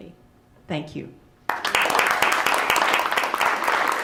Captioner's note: applause